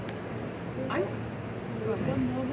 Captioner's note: thoughtful noises